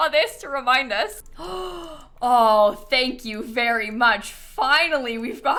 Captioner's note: gasps